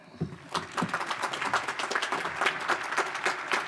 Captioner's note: audience applause